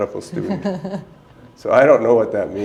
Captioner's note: chuckle